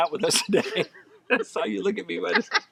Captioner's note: both laughing